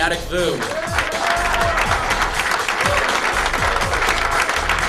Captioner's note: cheering and applause